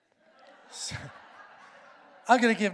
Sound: congregation laughs

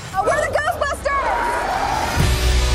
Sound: crowd cheers

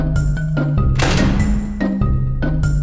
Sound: door Slam

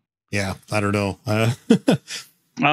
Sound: laughing

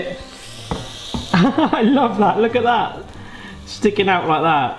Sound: laughs

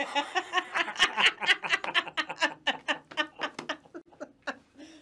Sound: laughter

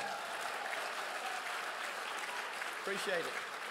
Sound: crowd cheers

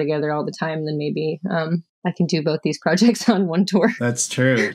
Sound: laughter

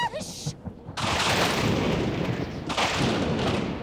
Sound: thunder

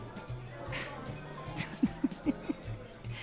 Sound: exhales and laughs

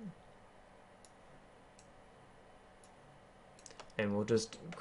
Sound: keyboarding

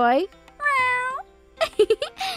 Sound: Joy purring; laughing

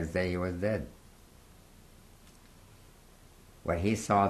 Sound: pauses for 3 seconds

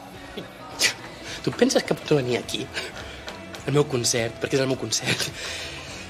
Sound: laughs

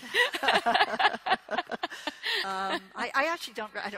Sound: both laughing

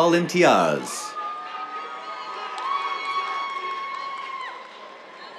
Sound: cheers

